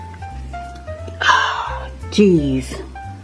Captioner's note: sighs